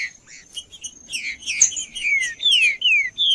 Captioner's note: trinca ferro cantando